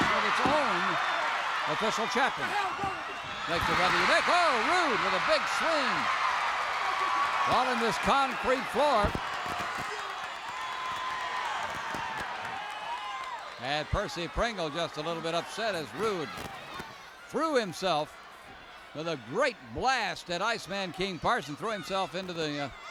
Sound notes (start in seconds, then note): 6.2 crowd cheers